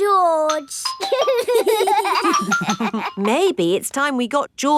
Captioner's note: giggling